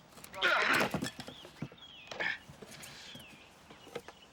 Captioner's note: men groaning